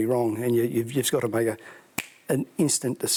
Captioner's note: clicks fingers